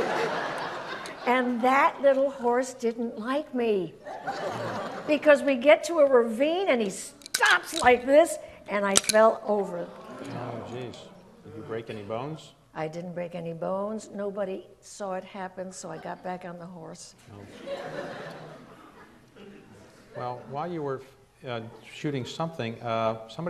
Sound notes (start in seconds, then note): 0.0 audience laughs; 9.8 audience murmurs; 17.4 audience laughs